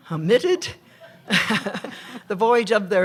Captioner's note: laughter